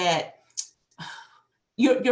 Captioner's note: sigh